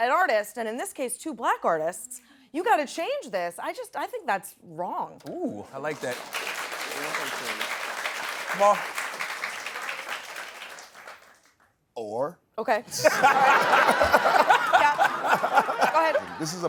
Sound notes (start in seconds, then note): 5.8 applause; 12.9 laughter